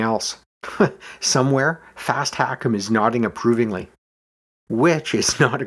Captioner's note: chuckles